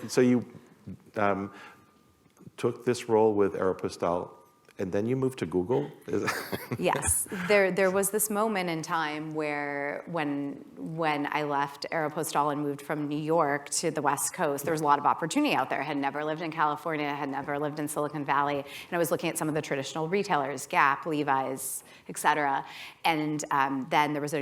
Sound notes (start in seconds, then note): 6.2 laughter